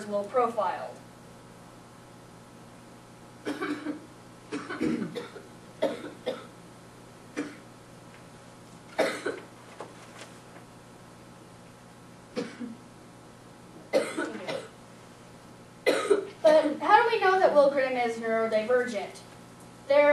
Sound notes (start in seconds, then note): 1.9 audience member coughing